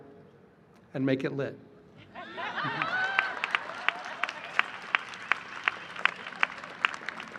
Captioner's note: laughter and applause